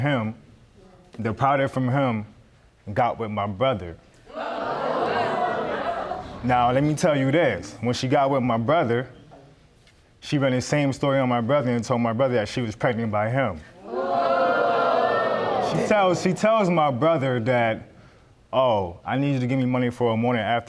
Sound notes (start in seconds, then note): 4.3 audience gasp